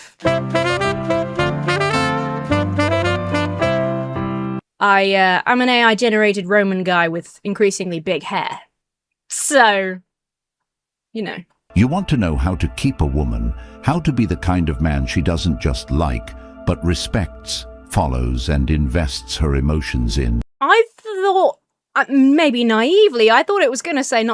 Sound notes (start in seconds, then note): 0.0 quirky music; 11.8 AI Voice